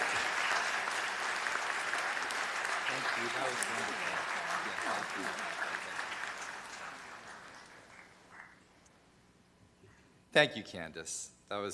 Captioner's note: applause